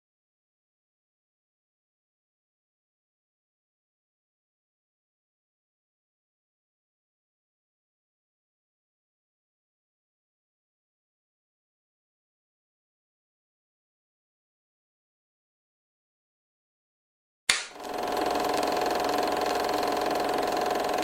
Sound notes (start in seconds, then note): 16.9 clacker claps; 17.5 film reel clicking